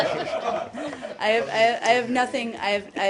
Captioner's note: laughter